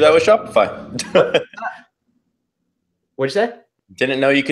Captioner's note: laughs